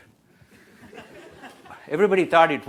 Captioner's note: audience laughs